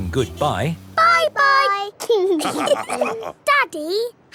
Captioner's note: all laughing